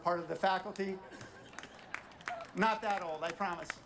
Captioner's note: audience applauding